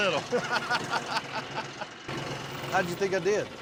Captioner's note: laughter